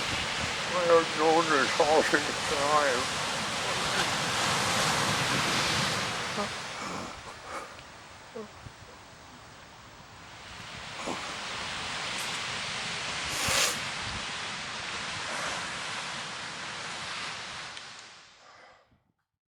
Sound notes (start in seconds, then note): 4.3 sobbing